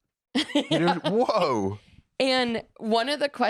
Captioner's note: laughs